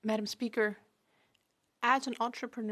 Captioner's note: speaking French